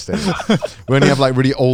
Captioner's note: laughing